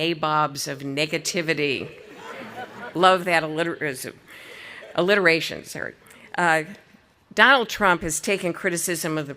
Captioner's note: audience laughing